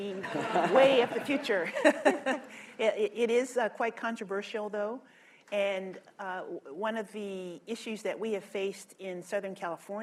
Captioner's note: laughter; laughs